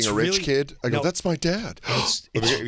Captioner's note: gasps